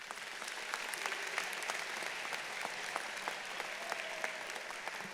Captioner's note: audience applauding